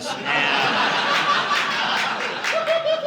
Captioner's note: audience laughing